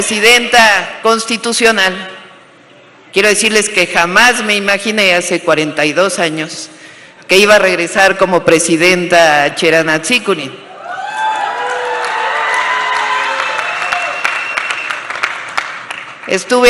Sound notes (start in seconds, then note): 11.5 applause